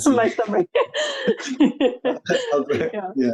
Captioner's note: laughing; laughs